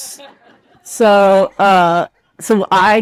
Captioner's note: participants laugh